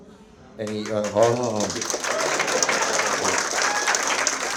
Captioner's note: audience members applaud